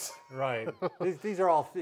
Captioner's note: laughing